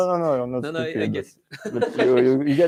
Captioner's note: laughter